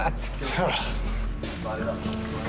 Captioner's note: sighs